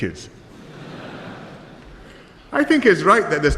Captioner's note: laughter